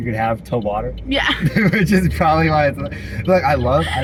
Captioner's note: laughing